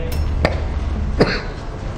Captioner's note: loud cough; silent cough